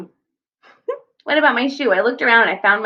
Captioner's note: giggles